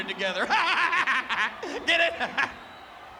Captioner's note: laugh